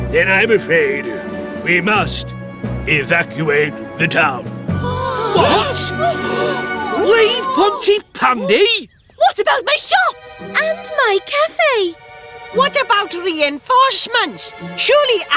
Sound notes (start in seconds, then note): 4.7 all Gasp; 6.0 gasp!